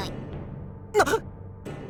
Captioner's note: gasp